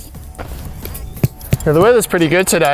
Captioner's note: hammer pounding